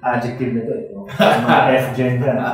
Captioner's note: laughing